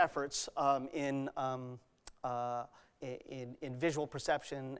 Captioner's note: stammers